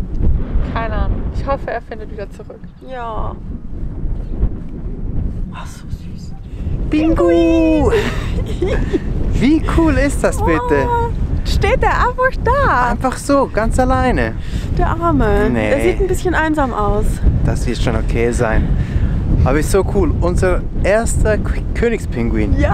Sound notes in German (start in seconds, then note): 7.2 Lachen